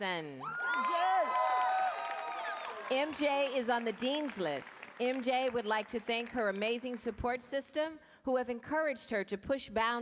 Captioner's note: applause